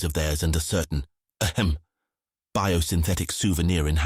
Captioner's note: ahem